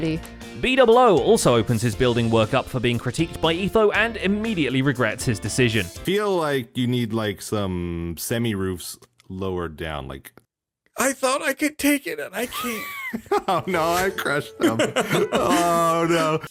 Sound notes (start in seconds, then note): 13.4 wheezes; 14.5 laughs